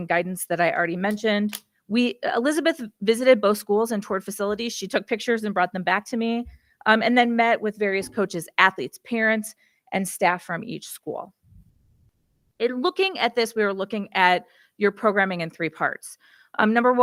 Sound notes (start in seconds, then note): none